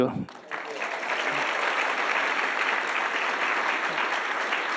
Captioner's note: audience applauding